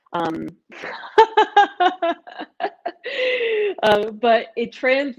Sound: laughing

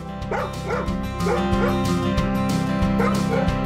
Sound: dog barking

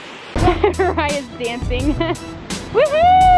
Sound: laughing

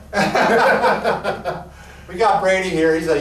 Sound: laughing

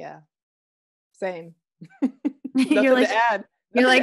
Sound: laughing

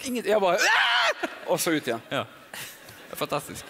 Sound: screams

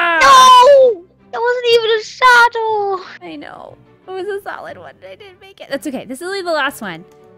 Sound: whoo-hoo

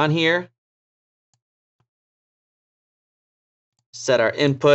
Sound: mouse clicking

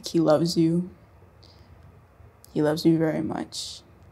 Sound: none

